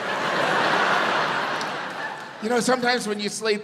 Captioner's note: audience laughs